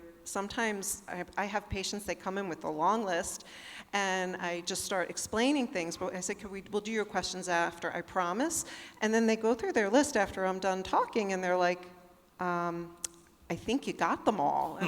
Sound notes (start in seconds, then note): none